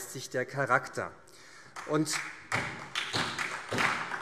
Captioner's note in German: Beifall SPD